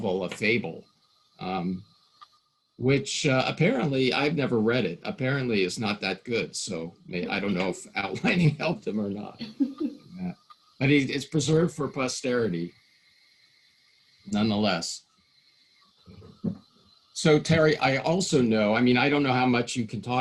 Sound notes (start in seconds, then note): 8.6 laughing